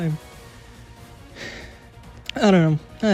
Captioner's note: beleaguered sigh